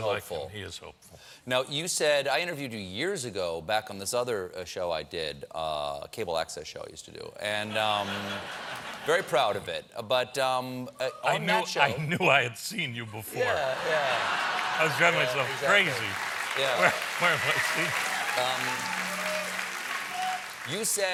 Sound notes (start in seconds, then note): 4.8 laughter; 13.8 applause